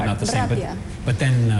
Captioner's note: non-english speech